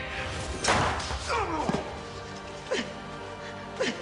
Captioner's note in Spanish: Golpes y gritos; Disparo